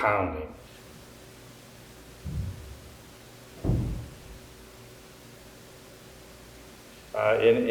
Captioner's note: repeated, distant thudding sounds